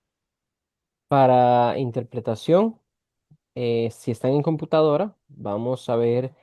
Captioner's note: interpreter speaking in Spanish